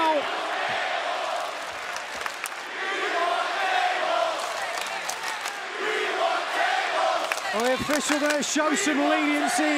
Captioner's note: crowd cheering